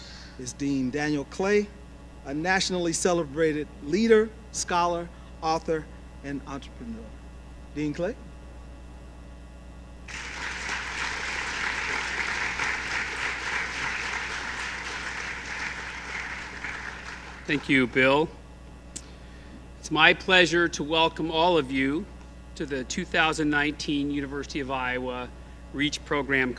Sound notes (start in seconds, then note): 10.0 applause